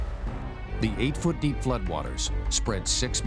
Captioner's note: voiceover